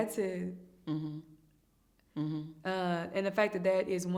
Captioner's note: hums in agreement